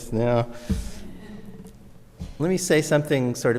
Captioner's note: audience laughs